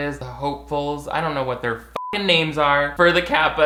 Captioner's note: beep